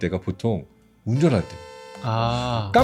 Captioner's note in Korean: 자동차 경적 효과음